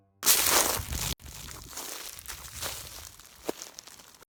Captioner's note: shoe crunching on ground